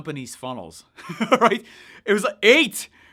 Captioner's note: laughs